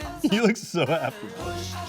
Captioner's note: chuckling